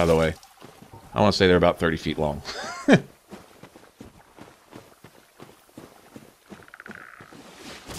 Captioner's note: laugh